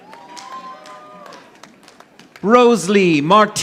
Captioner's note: audience applauding